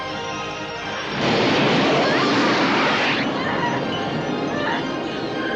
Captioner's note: flames whooshing, electrical buzzing; Lisa screams